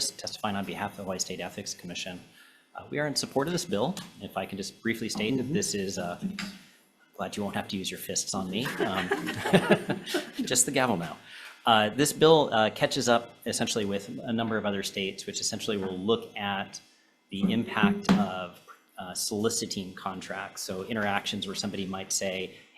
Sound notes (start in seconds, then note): 8.6 senators laughing